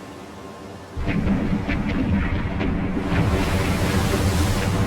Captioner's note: guns rumble